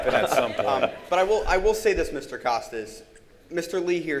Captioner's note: audience laughing